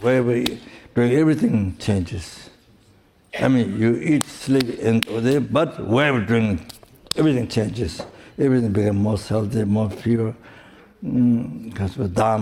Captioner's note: snaps his fingers